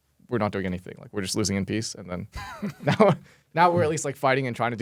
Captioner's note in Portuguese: risos